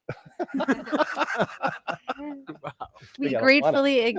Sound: laughing

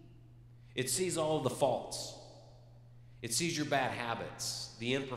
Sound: none

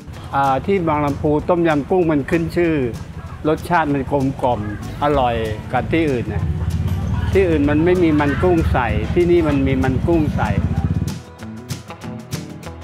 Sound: speaking Thai

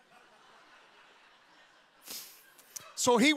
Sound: audience laughing

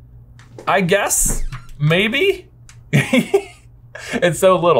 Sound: laughs

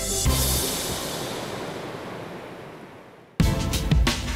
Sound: water rustling

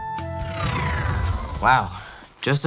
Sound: loud whooshing

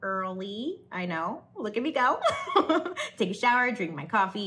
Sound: laughs

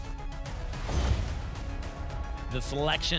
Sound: thump; whoosh

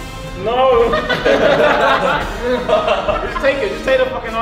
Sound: group laughs

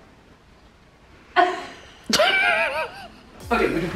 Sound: laughing

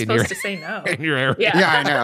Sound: laughter

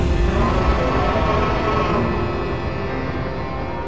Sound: Light Dragon roars

